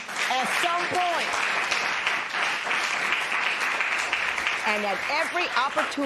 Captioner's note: applause